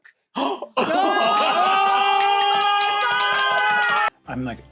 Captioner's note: cast exclaims